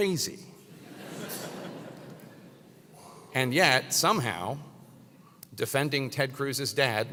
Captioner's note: laugh